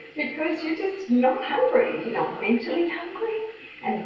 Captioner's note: none